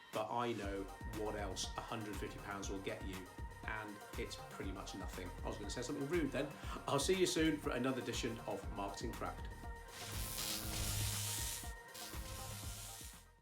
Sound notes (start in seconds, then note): 9.9 electric Buzz